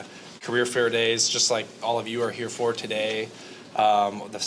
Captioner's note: none